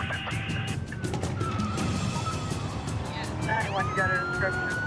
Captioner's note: tires screeching